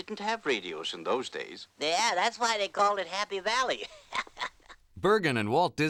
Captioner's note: chuckles